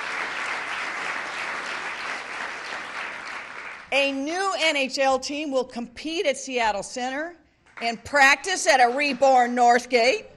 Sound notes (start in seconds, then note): 1.9 cheering; 2.6 applause